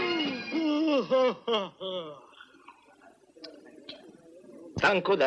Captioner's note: yawning